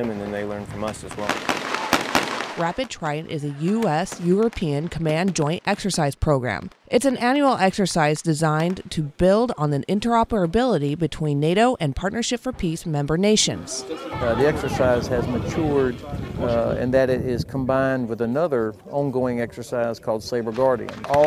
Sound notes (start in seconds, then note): 0.0 shots fired